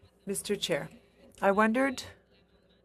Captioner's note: speaking in French